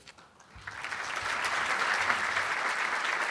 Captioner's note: applauding